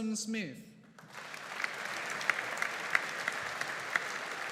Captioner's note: audience applauding